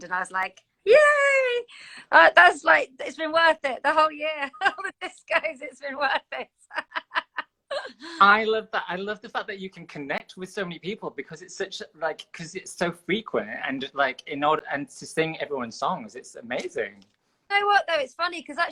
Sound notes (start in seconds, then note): 6.5 both laugh